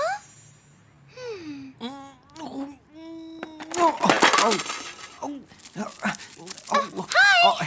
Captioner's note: William groaning; film canister clattering